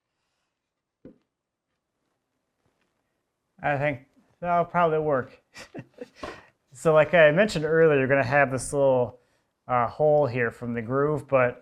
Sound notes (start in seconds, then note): 5.6 laughs